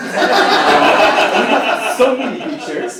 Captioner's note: laugh